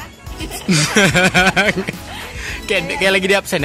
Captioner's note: chuckling